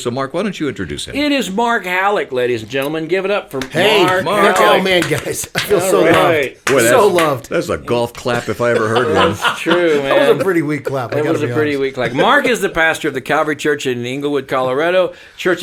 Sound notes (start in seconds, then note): 3.5 slow clapping; 8.5 laughing